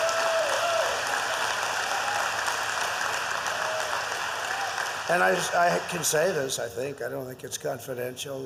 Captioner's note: applause